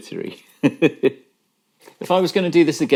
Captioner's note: laughing